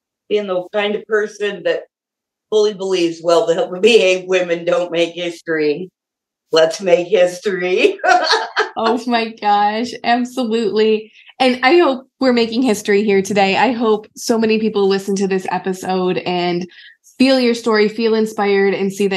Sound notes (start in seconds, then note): 7.8 laughs